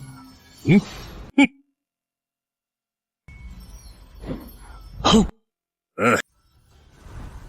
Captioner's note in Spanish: Suspiro